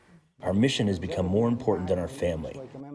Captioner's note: through translator